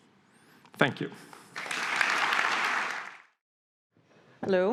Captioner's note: audience applauding